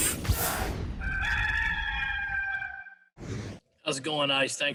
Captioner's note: rooster crowing